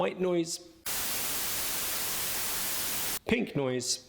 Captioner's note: static blaring